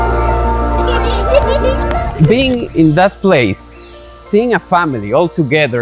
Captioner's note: children laughing